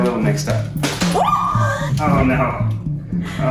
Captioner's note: woman shrieks in the background